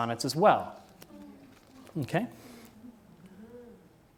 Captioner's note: audience groans